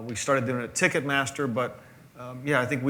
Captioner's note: none